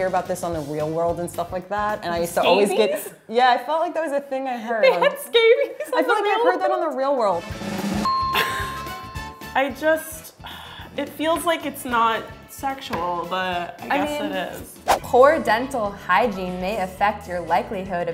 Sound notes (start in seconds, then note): 7.4 drum roll; 8.0 ding